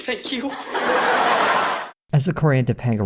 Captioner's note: audience laughter